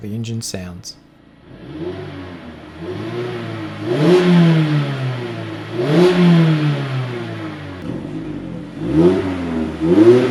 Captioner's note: engine